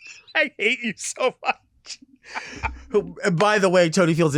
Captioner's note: laughs